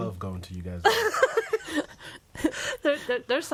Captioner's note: laughs